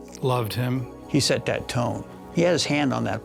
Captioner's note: none